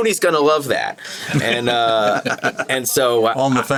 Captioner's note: all chuckle